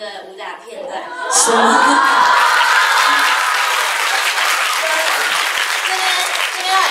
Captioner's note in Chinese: 熱烈歡呼聲